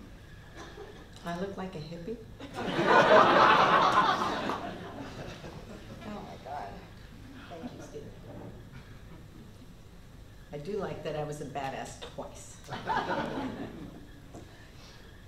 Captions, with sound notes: I look like a hippie? [Laughter] Thank you, Steven. I do like that I was a badass twice. [Laughter]